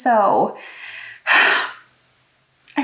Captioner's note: sigh